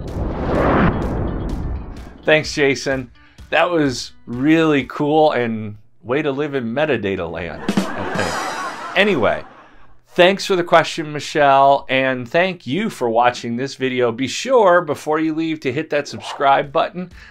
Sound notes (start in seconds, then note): 0.0 swoosh; 7.5 laughter